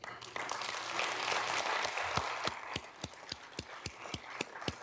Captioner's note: audience clapping